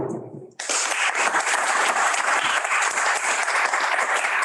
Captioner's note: audience applauding